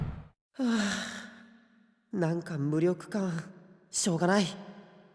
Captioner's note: sigh* I feel so useless